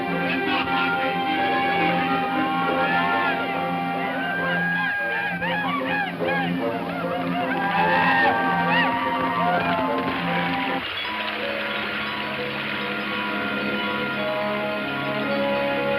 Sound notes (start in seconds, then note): 3.1 people screaming; 9.7 water splashing